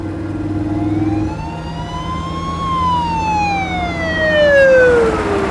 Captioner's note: siren blaring